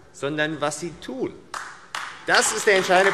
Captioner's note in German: Beifall AfD